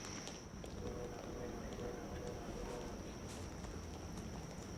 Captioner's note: luggage wheels rattle; footsteps shuffle